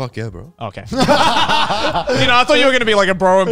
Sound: all laughing

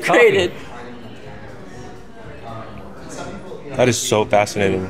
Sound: customers chattering

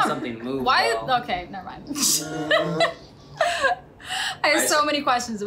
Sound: laughs

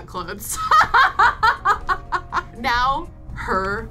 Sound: laughing

